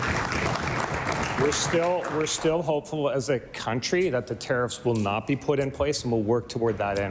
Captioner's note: applause